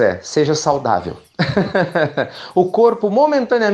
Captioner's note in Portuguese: Risos